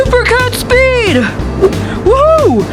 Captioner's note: whooshing